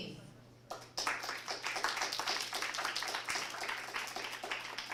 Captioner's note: applause